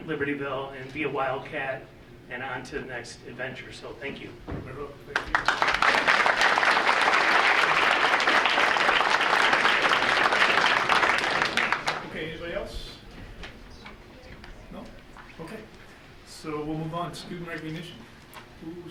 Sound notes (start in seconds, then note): 5.1 audience applauding